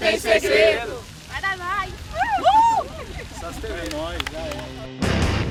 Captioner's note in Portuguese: gritos de euforia